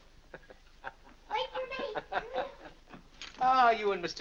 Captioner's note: Dr. Lloyd chuckles